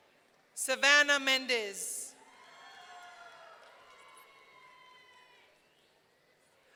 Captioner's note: audience cheering